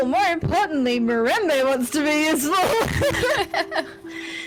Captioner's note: laughs